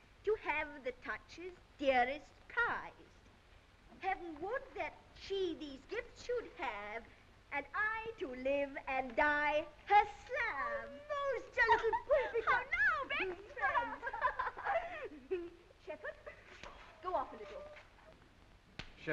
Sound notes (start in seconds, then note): 14.3 girls giggling